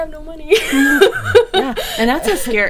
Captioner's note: laughing